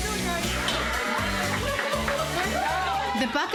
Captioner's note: clapping and cheering